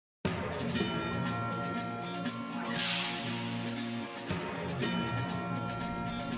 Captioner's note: whip cracks